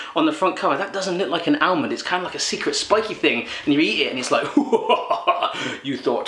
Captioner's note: evil laugh